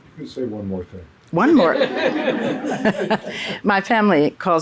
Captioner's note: laughs